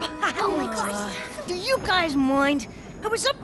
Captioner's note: groans